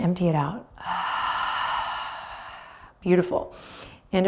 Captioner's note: audibly exhales